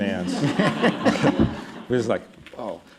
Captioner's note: laughter